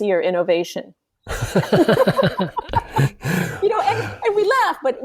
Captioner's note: laughs